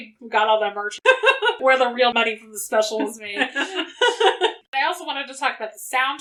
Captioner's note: laughs